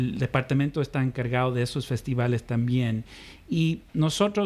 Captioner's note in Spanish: Hablando ingl\s